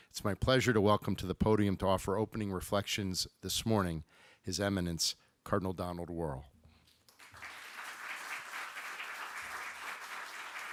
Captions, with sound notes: It's my pleasure to welcome to the podium to offer opening reflections this morning, His Imminence, Cardinal Donald Wuerl. (applause)